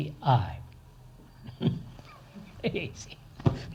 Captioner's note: laughs